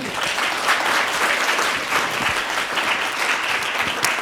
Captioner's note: audience applauds